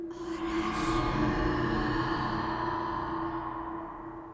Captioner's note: whispering